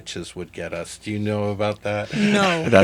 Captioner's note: laughs